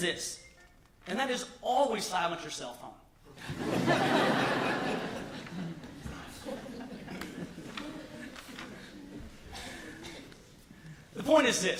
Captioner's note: laughter